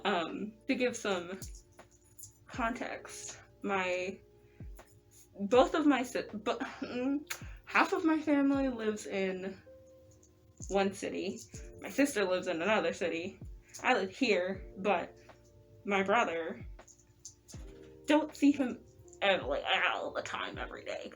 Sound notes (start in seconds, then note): 7.2 lip smack